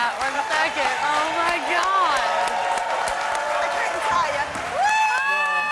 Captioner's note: crowd cheering and applauding